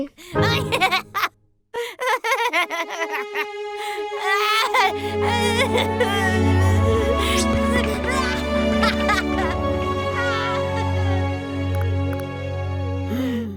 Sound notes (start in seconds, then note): 1.7 laughing; 3.8 crying; 6.5 soft strings music